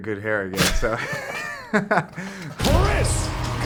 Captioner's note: laughing; audience cheering